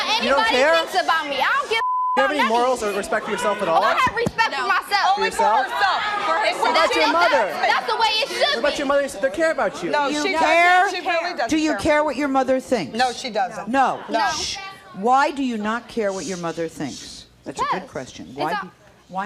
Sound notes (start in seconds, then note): 1.8 beep